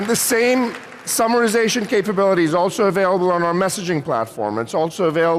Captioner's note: applause